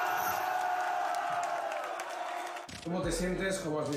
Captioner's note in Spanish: Aplausos y vítores